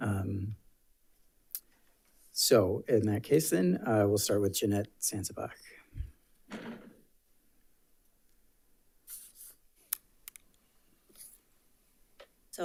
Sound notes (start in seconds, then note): 6.4 chair thuds; 9.1 paper rustling